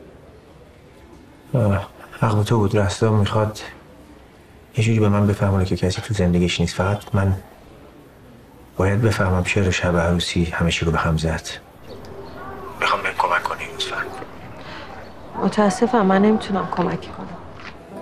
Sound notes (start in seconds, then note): none